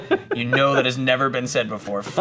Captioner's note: laughs